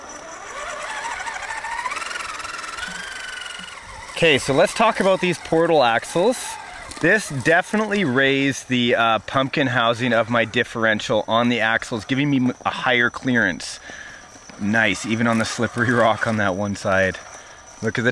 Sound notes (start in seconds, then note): 0.0 engine revs